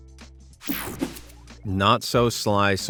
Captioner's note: scene change whirs